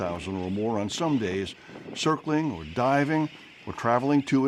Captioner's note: birds